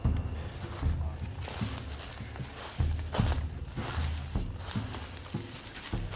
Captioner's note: leaves rustling underfoot